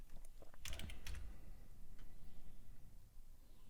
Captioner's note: clicking